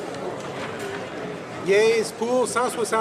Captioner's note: none